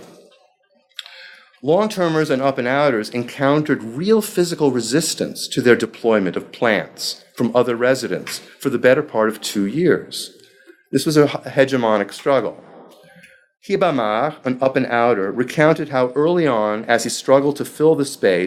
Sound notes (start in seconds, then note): 13.0 speaking foreign language